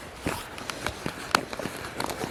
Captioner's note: desperate rubbing